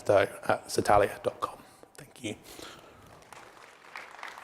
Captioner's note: applause